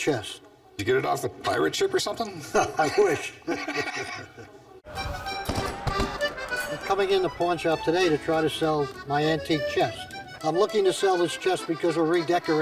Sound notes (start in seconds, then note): 2.3 laugh; 4.9 cannons firing